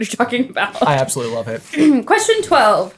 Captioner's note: paper crinkling